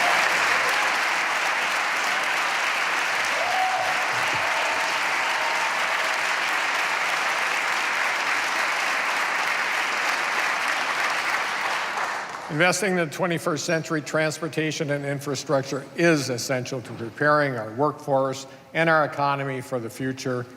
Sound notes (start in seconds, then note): 2.7 applause